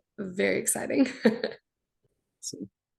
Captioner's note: chuckles